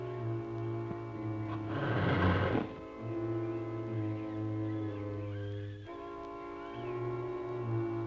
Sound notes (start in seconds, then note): 1.5 snake hissing; 2.4 mysterious music